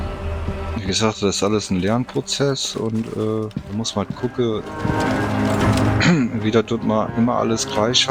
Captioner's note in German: räuspern